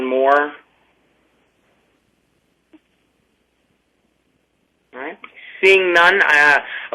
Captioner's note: pause